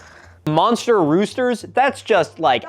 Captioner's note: deep sigh